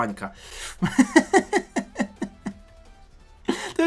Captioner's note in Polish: śmiech